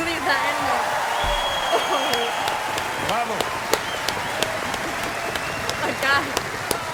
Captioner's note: crowd cheers and applauds